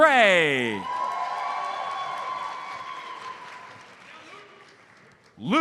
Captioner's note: audience cheers and applauds